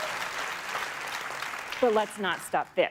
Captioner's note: applause